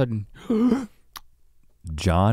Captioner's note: gasps